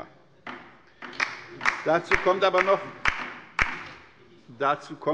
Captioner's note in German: Beifall bei der LINKEN